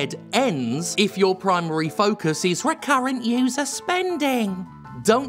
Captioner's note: mocking